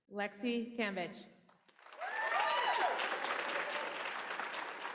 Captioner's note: applause